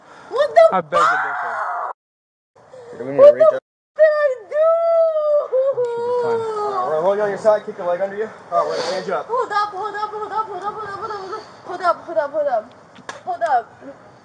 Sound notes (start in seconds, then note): 4.7 crying